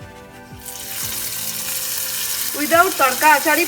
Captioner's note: pan sizzling